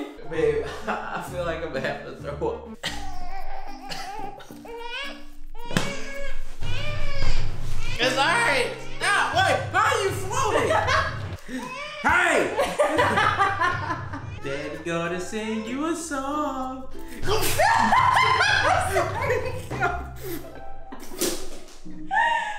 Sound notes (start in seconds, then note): 3.1 baby wailing; 10.7 woman laughs; 12.6 woman laughing; 17.0 laughs; 17.2 sneezing; 20.0 upbeat music